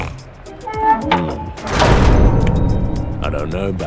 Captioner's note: snorts; door shuts